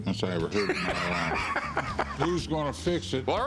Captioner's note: laughs